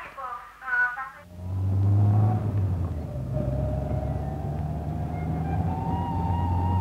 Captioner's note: vehicle engine roars